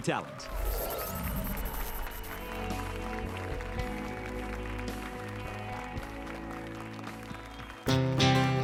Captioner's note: applause and cheers